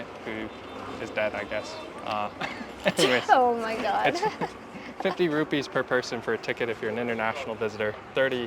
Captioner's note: uncomfortable laughter